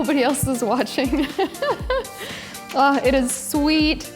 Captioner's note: laughing